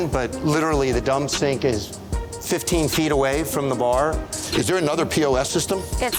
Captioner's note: none